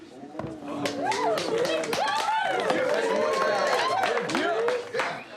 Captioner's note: cheering; applause